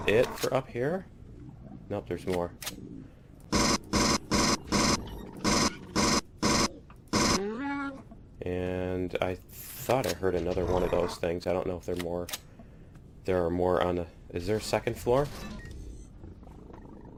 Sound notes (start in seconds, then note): 6.3 bat dying; 16.2 aliens growling